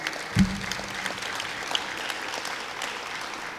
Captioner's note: clapping